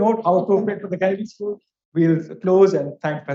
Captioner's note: speaks faintly